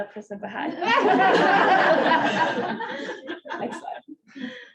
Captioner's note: audience laughing